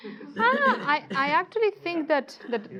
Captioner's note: audience laughs